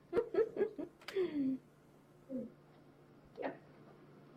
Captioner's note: chuckling